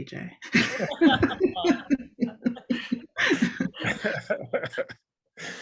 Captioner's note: group laughter